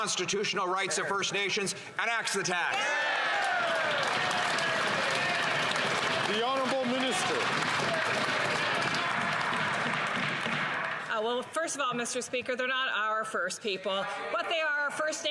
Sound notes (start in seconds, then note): 9.0 some Applause